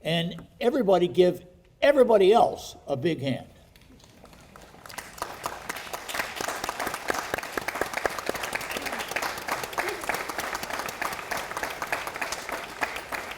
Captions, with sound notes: and everybody give everybody else a big hand. (audience applauding)